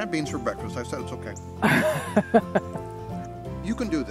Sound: chuckles

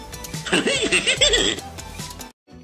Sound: scooby-doo laughs

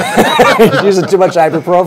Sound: everyone laughs

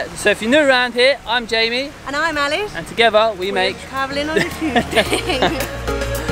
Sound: both laugh

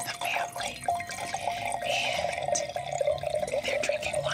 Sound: wine pouring

